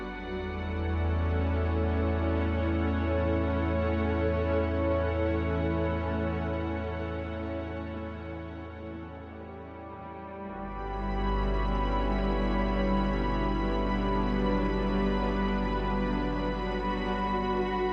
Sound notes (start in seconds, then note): none